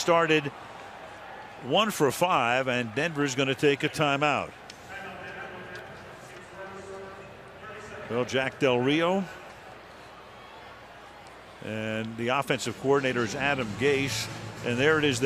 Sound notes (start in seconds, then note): 5.4 pa announcement